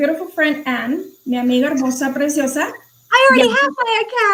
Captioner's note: speaking foreign language